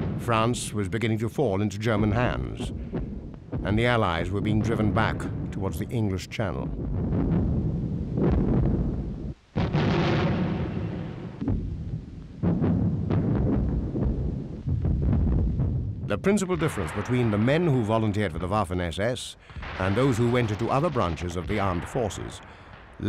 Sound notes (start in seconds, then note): 7.1 artillery rumbling